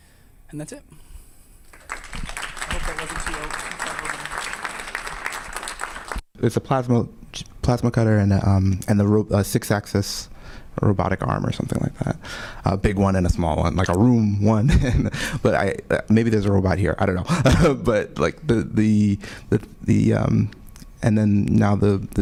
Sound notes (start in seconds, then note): 1.6 audience clapping